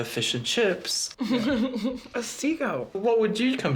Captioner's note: chuckles